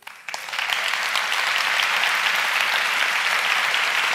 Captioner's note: applauding